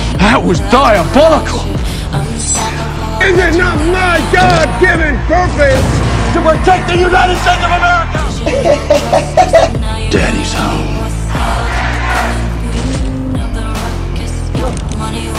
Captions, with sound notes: Butcher:That was diabolical. Homelander:Is is not my god given purpose, to protect the United States of America Homelander:(Laughs). Butcher:Daddys home. Crowd:Homelander!